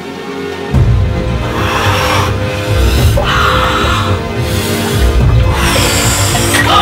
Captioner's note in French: profonde respiration